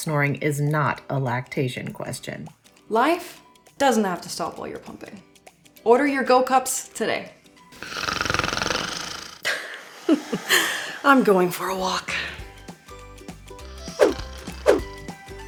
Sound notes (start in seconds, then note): 7.7 snoring; 9.4 laughs